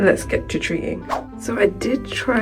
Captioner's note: whoosh